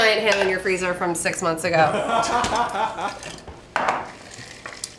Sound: laughs

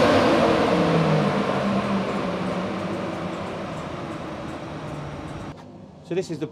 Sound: fans whir down

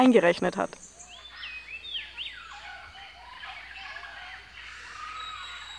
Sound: birds chirping

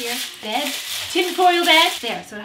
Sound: foil rustling

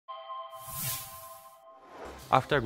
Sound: whooshing

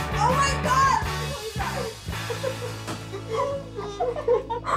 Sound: upbeat music; both laughing

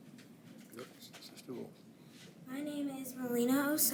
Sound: unmiced voice talking

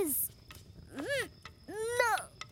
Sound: grunting

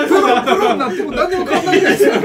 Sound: laughs

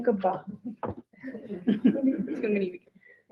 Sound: group laughing

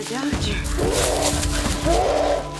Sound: howling

